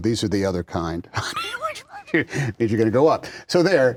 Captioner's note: laughs